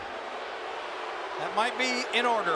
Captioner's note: crowd booing